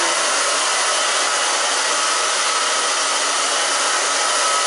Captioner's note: blow dryer